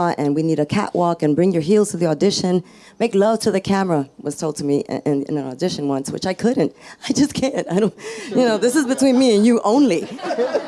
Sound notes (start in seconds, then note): 8.2 laughs; 8.2 audience laughs